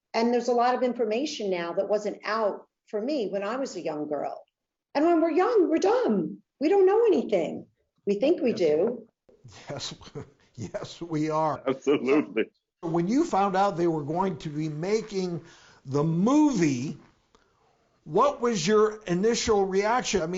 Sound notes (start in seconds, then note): 10.6 laughing